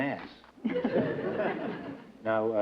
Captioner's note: laughter